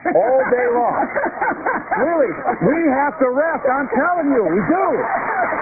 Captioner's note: laughter